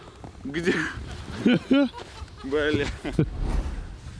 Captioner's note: several people laugh